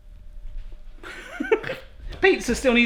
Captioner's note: laughs